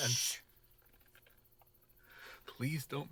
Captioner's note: shushing